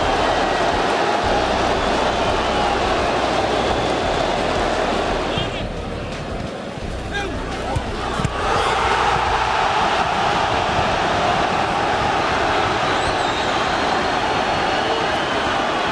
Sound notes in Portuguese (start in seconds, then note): 0.0 gritos de gol; 0.3 torcida celebrando; 5.2 sons da torcida; 7.1 gritos de gol; 12.5 torcida celebrando